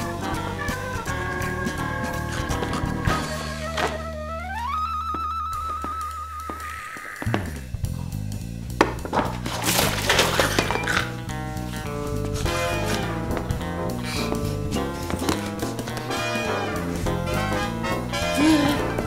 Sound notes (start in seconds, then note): 10.0 snorting; 18.2 gasps